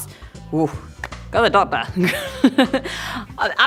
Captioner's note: chuckles